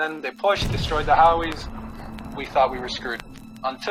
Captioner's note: explosion